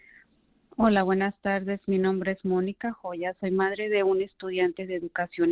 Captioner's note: speaking Spanish